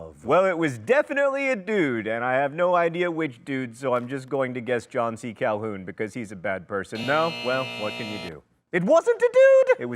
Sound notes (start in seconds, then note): 6.9 buzzer buzzes